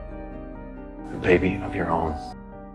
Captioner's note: voiceover